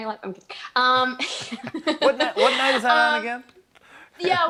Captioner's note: both laugh